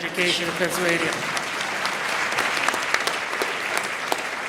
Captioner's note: audience claps